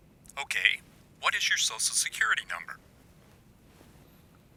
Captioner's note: voiceover